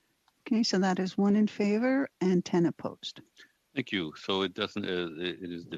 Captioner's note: speaking FRENCH